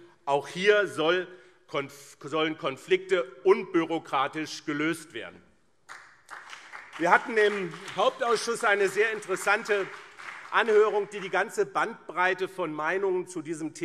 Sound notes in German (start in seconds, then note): 5.8 Beifall BÜNDNIS 90/DIE GRÜNEN und CDU